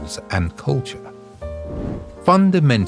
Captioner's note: air whooshing